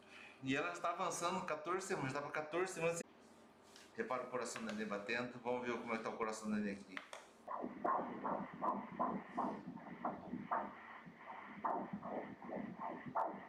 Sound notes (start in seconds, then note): 7.4 heart beat